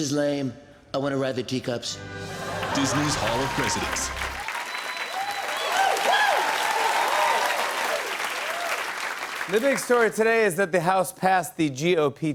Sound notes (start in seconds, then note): 2.2 cheers and applause